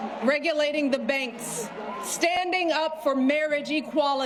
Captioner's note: cheers and applause